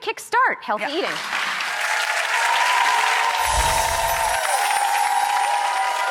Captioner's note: audience applauds and cheers